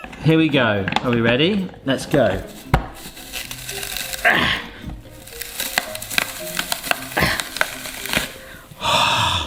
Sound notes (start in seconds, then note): 3.5 apple crunching; 4.3 grunting; 5.8 apple crunching; 7.0 gasps